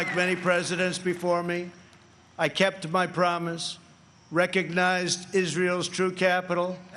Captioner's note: applause